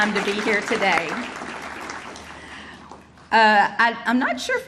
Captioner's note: audience applauding